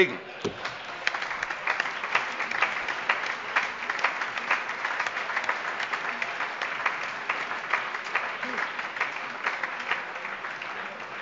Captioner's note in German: Allgemeiner Beifall - überreicht ein Weinpräsent